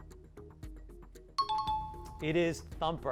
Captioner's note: timer